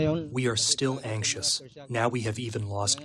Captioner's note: through translator